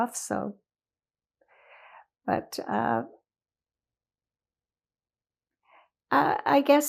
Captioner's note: pauses 4 seconds